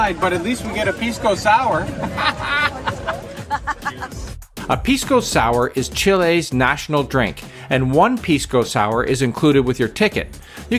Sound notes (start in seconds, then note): 1.7 laughs